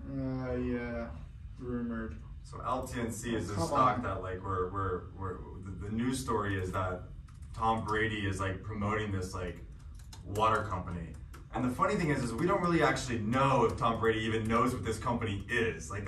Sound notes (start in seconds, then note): none